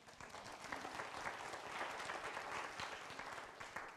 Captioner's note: applause